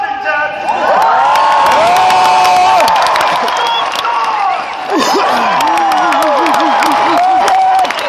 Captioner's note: cheers & applause